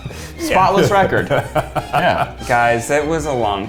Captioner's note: laughs